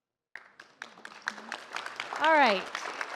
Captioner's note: audience applauds